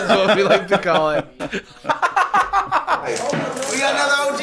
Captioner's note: laughing